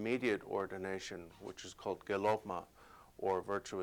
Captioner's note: non-english speech